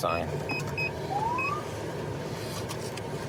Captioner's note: siren chirps